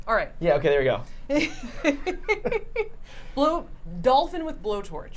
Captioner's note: laughs